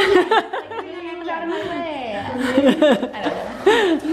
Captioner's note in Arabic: يضحك